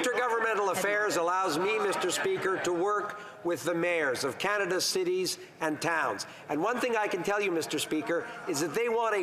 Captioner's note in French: voix de l'interprète